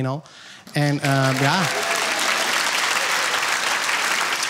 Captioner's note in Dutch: applaus